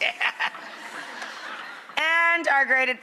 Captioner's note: Rachael cackles; audience laughs